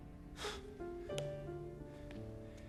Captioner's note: inhales sharply